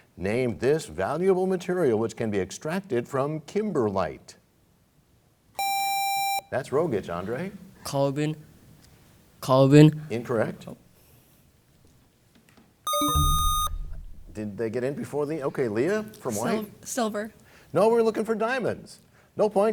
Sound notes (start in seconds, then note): 12.8 bell chimes; 12.8 buzzer sound